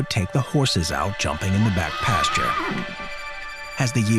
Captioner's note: horse neighing